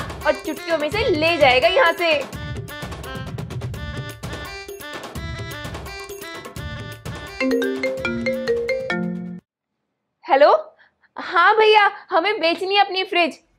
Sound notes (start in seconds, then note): 7.4 phone ringing